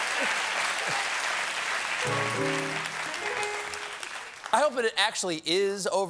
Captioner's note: applause